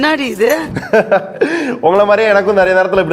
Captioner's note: laughs